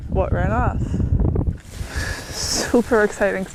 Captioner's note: wind whooshing